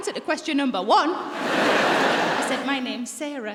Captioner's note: audience laughing